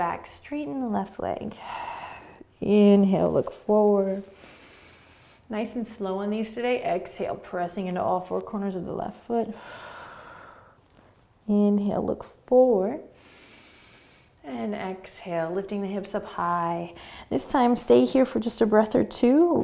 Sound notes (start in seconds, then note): 9.5 exhaling; 13.1 inhaling